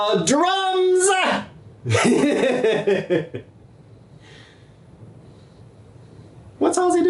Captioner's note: normal laugh